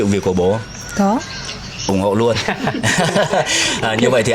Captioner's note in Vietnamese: tiếng cười